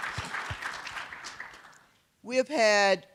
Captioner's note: applause